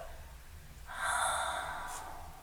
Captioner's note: sighs